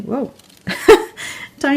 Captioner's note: laughs